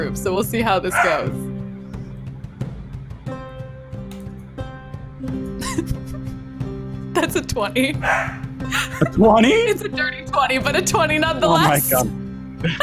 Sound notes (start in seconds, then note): 3.2 dramatic instrumental music; 5.6 laughs; 8.0 dog barks